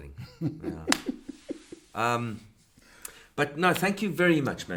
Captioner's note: chuckles